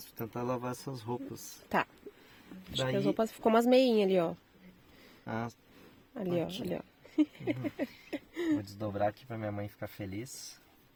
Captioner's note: laughter